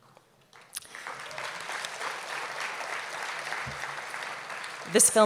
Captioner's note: applause